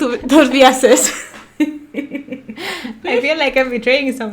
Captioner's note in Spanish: risa malvada